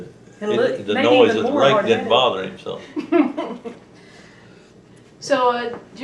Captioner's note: laughter